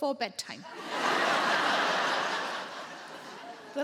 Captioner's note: audience laughs